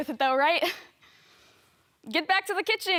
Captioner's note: soft breathing